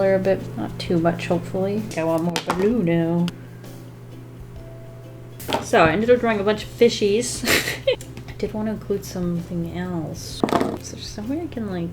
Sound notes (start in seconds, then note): 7.3 laughs